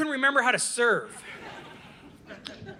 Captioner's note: audience laughing